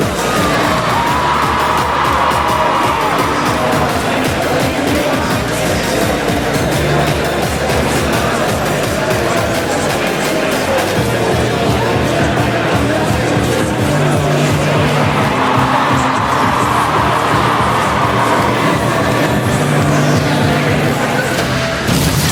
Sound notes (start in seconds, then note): 2.1 big audience cheer; 18.7 cheering